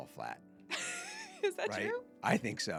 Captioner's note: laughing